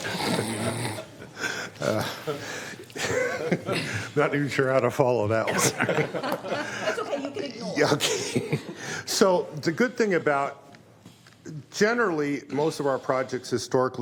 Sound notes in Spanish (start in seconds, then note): 2.1 risas